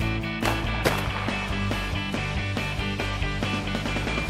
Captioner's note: booming